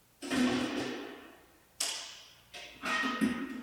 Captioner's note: metal clanging